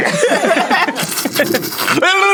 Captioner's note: rapid slurping